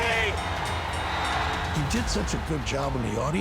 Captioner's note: bell rings